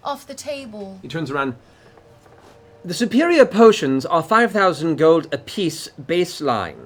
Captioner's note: none